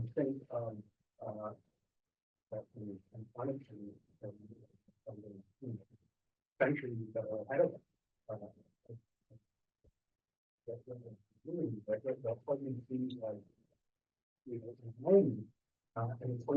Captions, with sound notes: And you know, I think, like you, (student speaking faintly off mic)